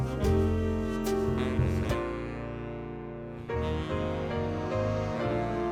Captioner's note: footsteps patter